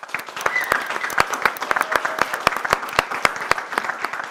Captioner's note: audience applause